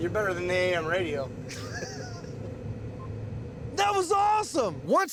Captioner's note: laughing